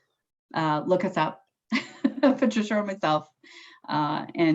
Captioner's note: chuckles